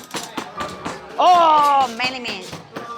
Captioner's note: tapping